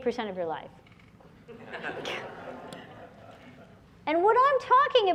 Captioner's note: laughter